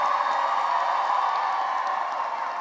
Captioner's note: cheering and applause